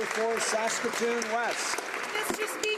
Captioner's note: some Applause